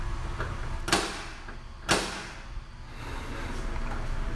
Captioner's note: door clanging